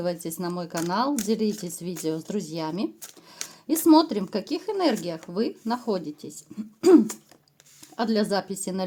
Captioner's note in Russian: откашливается